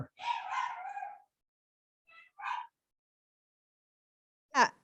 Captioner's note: dog barking